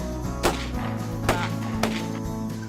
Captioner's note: gun shots